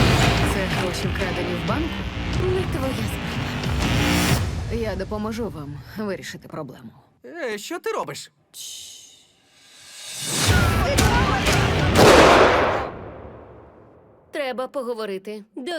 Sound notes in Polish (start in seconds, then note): 10.4 wrzaski